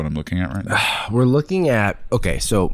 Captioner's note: sighs